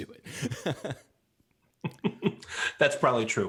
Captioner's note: laughs